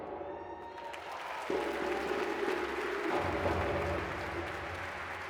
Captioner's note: audience applauding